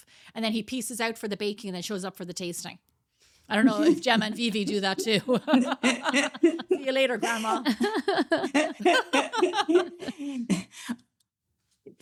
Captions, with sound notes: And then he pieces out for the baking and it shows up for the tasting. I don't know if Gemma and Vivi do that too. (laughing) See you later, grandma. (laughing)